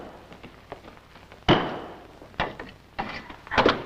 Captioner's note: thumping; thumping